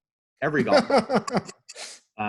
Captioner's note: laughing